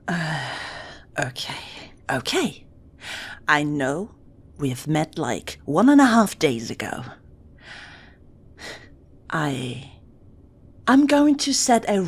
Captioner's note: sighs